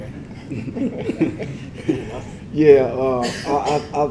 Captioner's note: laugh